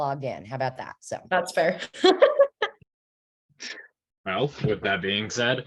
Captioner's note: laughs